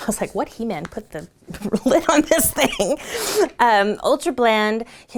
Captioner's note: laughs